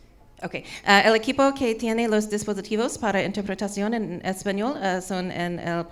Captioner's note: speaking in foreign language